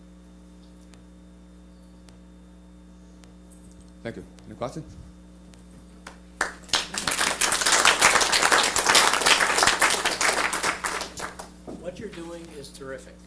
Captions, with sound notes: Thank you, any questions? [ Applause ] >> What you're doing is terrific.